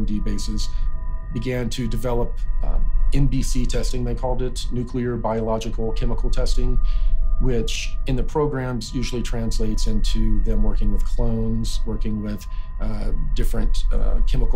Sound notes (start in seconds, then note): none